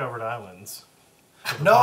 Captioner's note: all laugh